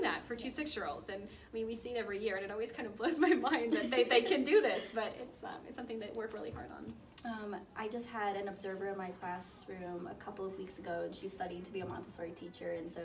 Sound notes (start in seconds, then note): 3.5 woman laughs; 3.6 laughs